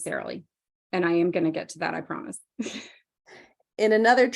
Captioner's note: chuckles